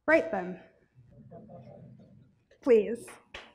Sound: chuckles

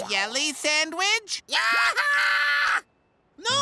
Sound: yells

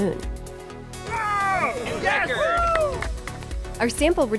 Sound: cheers

